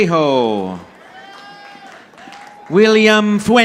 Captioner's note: audience applauding